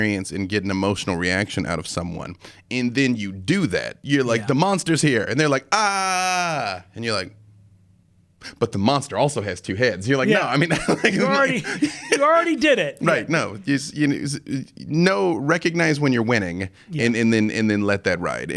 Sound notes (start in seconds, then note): 10.4 laughing